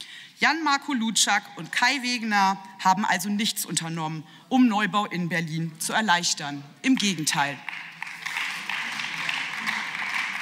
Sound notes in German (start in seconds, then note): 7.4 Beifall